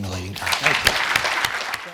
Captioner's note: audience applauding